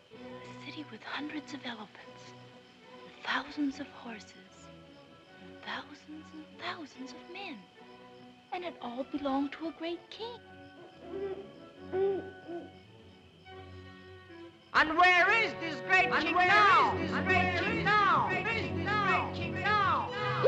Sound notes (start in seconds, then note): 10.3 owl hoots; 18.7 voice echoes